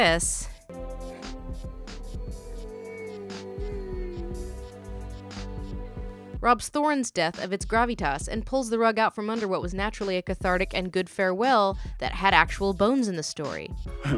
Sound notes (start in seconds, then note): 2.7 Bilbo cries quietly